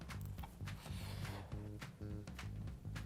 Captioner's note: food crunches; upbeat music